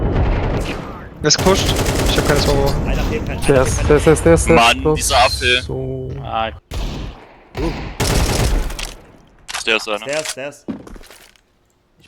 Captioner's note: German Counter-Strike noises